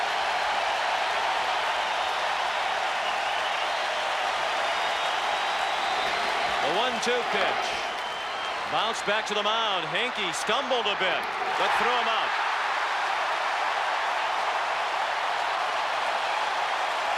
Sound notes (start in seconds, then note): 3.0 applause; 3.7 cheering and Applause